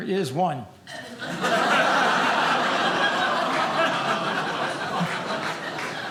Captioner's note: audience laughing